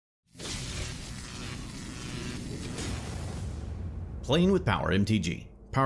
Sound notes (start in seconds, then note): 0.3 electricity Buzzing